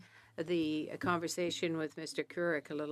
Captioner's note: speaking French